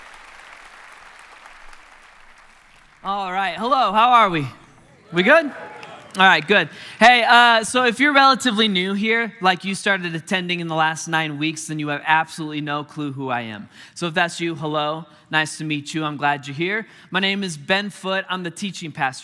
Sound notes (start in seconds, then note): 1.7 congregation applauding; 4.9 congregation cheering